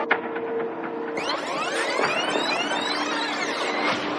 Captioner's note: tape screreeching